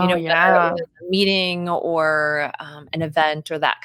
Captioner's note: speaking faintly